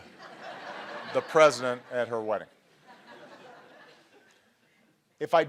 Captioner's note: laughter